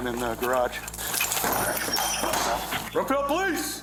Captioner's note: metal clangs